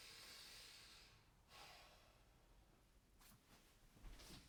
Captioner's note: Eddie inhales deeply